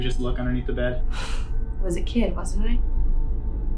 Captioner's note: sighs